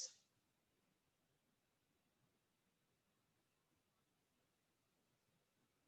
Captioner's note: silence until 41:36